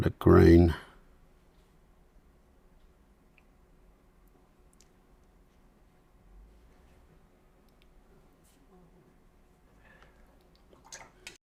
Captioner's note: silence